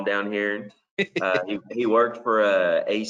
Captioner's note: laughs